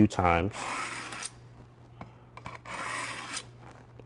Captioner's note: sound of blade scraping against sharpener